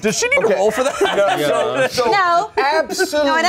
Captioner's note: everyone laughs